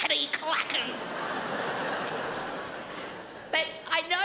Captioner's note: crowd laughs